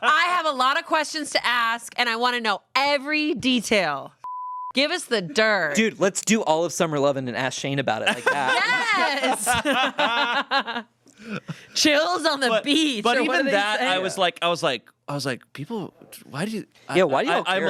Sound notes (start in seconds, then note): 4.2 beep; 9.8 everyone laughs